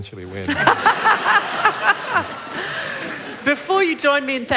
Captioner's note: laughter